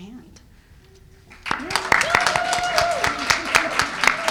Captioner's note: cheers and applause